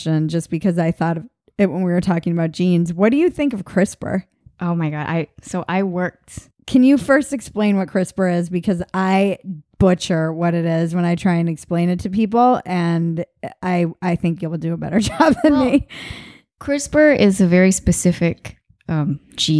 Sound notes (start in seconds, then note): 15.1 laughing